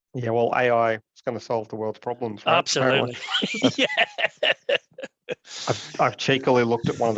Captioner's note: laughs